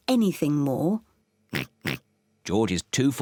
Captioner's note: oinking